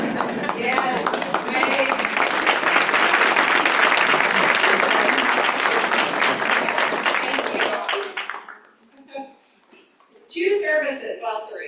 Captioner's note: applause